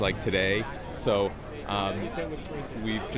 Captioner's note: crowd chatters